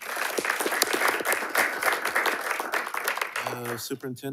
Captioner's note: attendees applauding